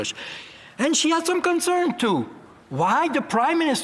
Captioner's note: speaking French